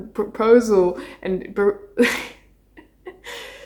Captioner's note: laughs